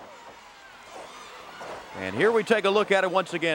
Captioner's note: crowd cheering